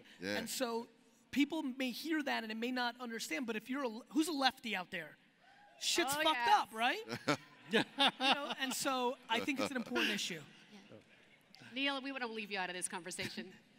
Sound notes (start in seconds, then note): 7.0 laughs